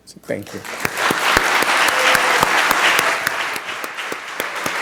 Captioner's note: applause